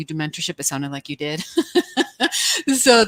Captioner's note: laughs